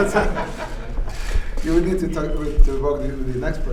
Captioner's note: laughter